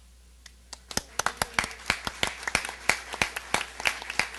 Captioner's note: applause